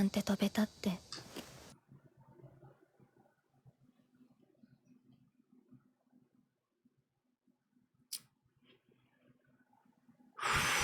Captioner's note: sighs